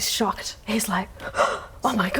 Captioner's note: gasp